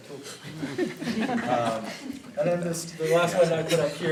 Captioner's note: laughter